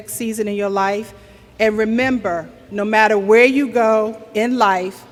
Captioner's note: none